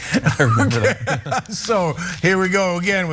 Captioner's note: laugh